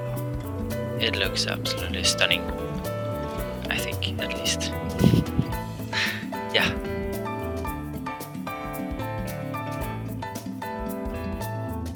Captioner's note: laughing at my own joke